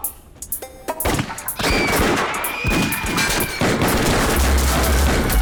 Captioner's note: gunfire